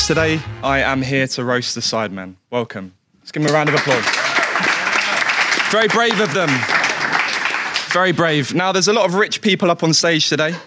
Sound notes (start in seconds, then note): 3.4 audience applauding